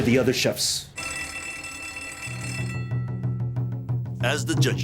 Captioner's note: bell rings